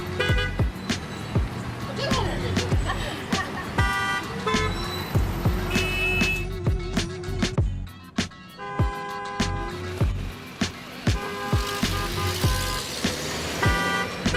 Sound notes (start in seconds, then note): 4.4 beeping